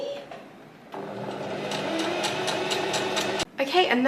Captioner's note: sewing machine surges